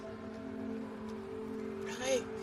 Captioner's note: sniffles